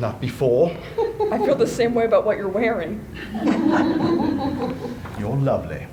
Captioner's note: laughter